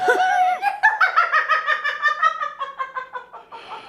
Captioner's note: laughing